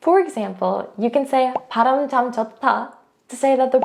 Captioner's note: speaking in Korean; bubble bursting